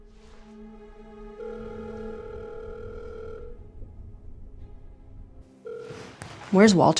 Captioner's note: phone ringing